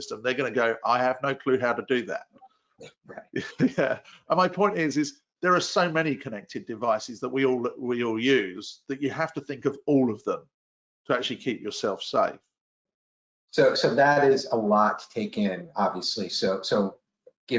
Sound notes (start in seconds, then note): 3.2 chuckles